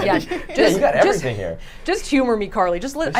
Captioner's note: group laughs